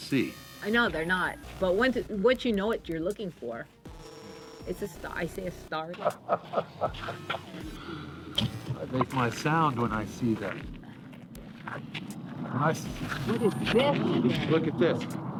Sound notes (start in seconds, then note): 5.9 chuckling